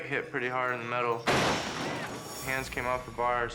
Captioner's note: bike crashing